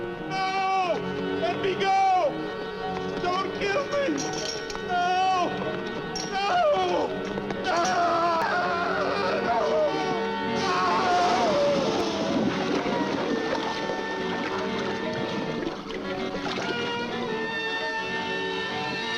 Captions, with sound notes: No, let me go! Don't kill me! No, no, no! (man screaming) (acid sizzling)